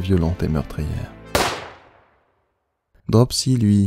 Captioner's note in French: coup de feu